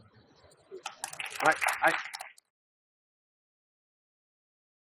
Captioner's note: audience applauding